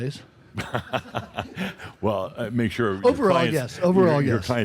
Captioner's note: chuckling